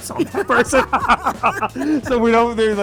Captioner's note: laughter